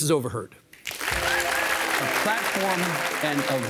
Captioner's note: audience applauding